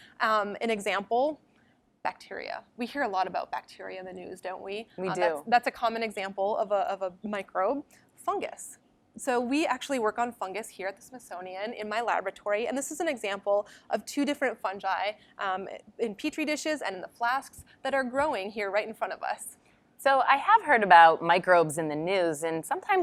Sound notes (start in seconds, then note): 5.0 voiceover